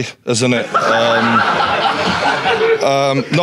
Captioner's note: audience laughing